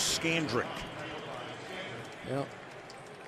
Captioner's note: pa announcement